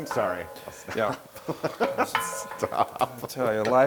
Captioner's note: laugh